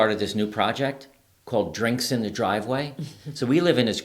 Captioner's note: laughing